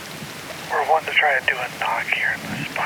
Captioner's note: over walkie